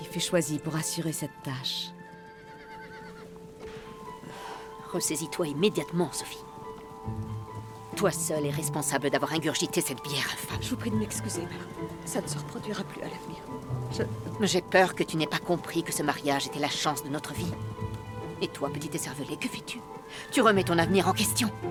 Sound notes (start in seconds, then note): 2.1 horse whinnies